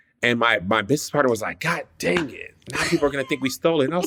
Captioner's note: laughs